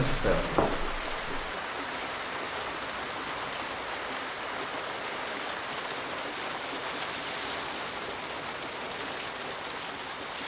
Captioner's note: heavy rain outside